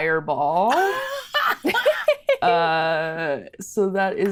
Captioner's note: Brennan and Siobhan laugh